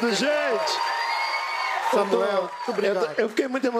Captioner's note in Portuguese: aplausos